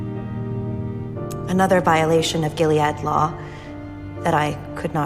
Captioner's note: voiceover